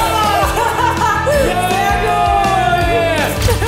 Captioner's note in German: Lachen